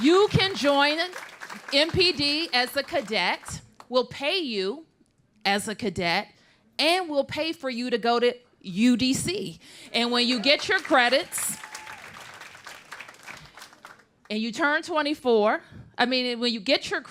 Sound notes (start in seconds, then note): 0.0 applause; 10.0 applause